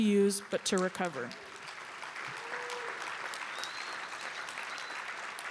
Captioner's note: applause